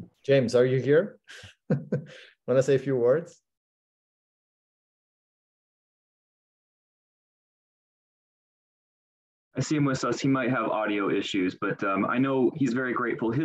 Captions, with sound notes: James, are you here? (chuckles) Wanna say a few words? - I see him with us. He might have audio issues, but I know he's very grateful.